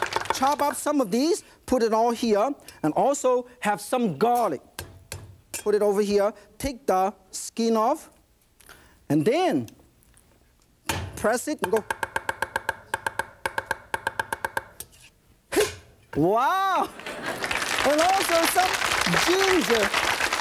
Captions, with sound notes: Chop up some of these put it all here. And also have some garlic. Put it over here. Take the skin off. And then press it and go (knife chopping sounds) Hiy! Wow! (applause) And also some ginger.